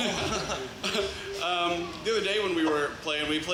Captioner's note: laughs; group laughs